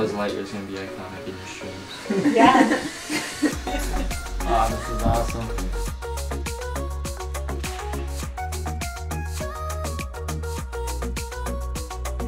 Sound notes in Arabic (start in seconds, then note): 2.1 آلي يضحك; 6.1 موسيقى خفيفة